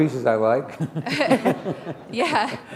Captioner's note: chuckle